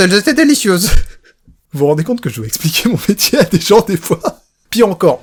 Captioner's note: laughs